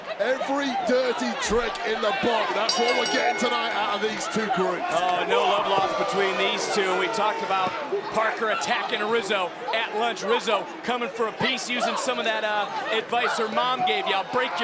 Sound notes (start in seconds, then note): 5.6 bell rings